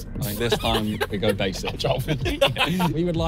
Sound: laughing

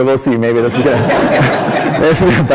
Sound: laughter

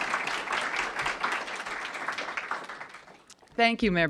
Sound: applause

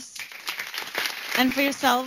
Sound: applause

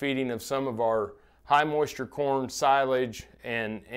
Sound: makes inhaling noise

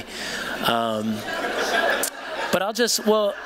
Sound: laughter

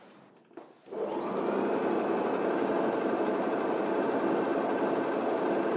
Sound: sewing machine motor whirring

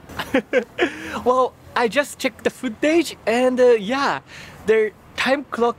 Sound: chuckles

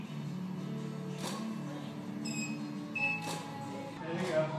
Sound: camera snapping

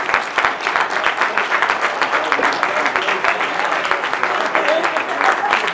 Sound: applause

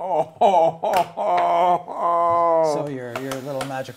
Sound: groaning

